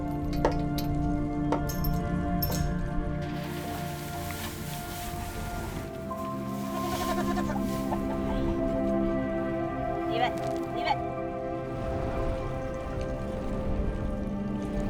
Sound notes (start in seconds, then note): 1.7 chains rattling; 6.8 sheep bleating